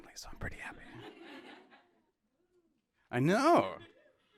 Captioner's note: audience laughing